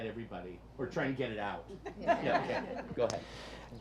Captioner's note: audience laughs